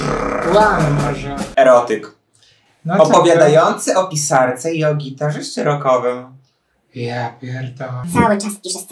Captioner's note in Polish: werble